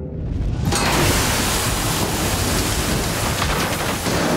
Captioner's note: explosion booming; water crashing